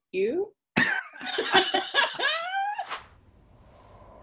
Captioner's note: laughs